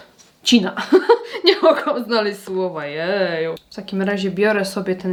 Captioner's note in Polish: śmiech